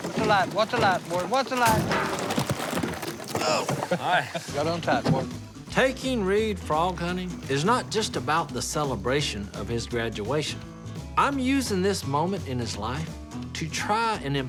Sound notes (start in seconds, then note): 3.4 chuckling